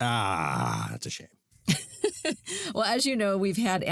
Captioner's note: chuckles